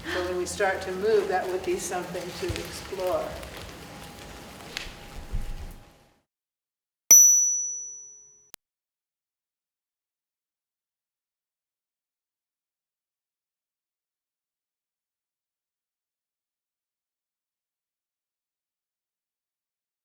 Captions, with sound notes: So when we start to move, that would be something to explore. (graphic dings)